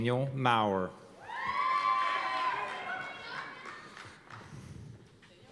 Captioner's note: cheers and applause